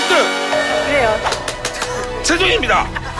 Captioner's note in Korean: 짝 x4